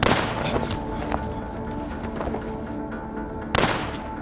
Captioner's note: gun firing